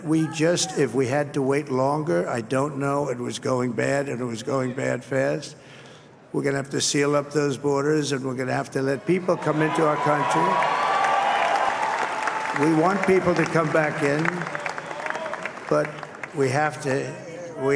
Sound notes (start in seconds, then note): 10.3 applause